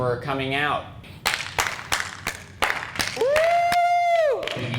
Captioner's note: audience clapping